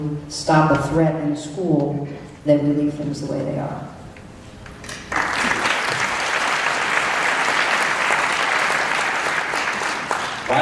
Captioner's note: clapping